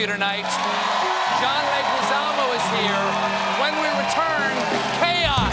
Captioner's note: cheers and applause